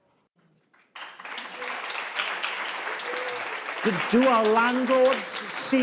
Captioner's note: audience claps